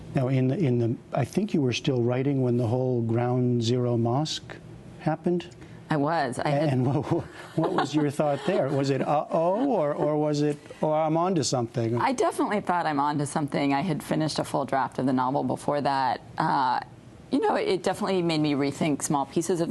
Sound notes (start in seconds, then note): 7.1 laughter